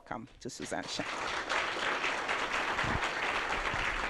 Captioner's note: applause